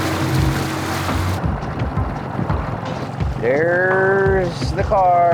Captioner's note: water splashing